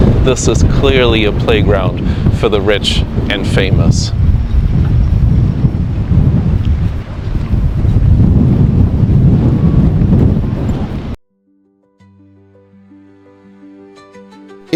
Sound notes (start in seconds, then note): 4.5 noise of wind